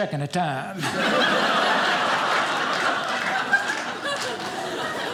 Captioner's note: audience laughing